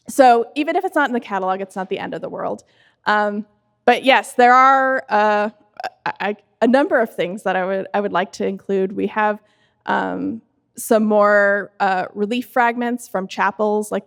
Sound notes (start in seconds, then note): none